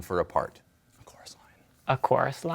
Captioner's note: whispers